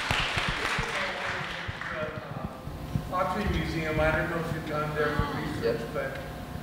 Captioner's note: audience applauding; faintly speaking